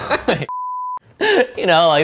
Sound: laughs; beep

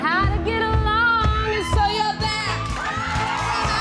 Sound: audience cheering

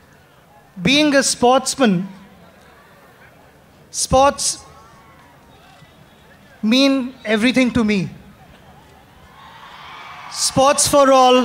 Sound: applause

